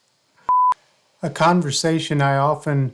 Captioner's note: beeping